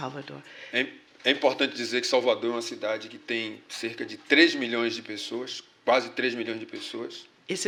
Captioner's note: speaking portuguese